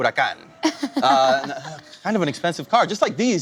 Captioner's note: laughs